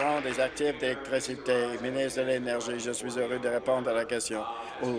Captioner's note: applause